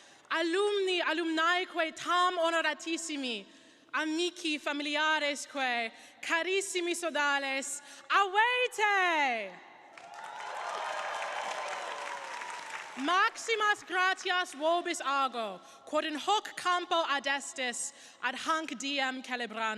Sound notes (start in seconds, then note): 9.9 crowd applauding; 13.1 speaks in Latin